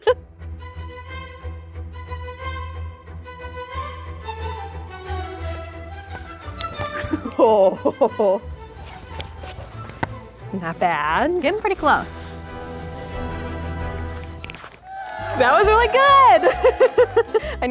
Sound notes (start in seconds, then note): 0.1 upbeat orchestral music; 6.7 laughs; 14.9 laughs